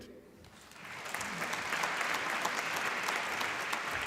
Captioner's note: applause